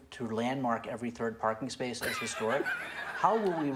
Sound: laughter

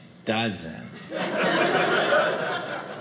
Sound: audience laughing

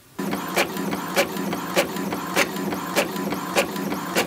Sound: printing whirring

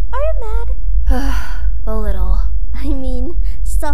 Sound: sigh

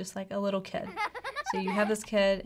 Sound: children laughing

